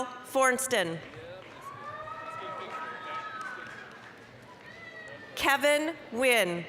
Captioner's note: applause, cheering